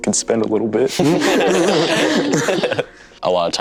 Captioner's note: all laughing